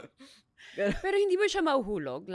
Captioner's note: laughs